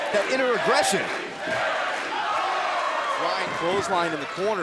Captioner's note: fans chanting